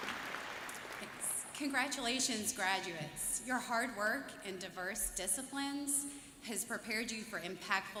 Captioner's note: applause